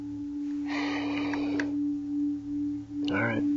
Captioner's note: heavy sigh